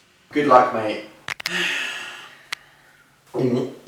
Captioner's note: cracks knuckles; gulp